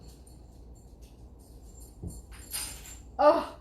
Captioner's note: metal clanging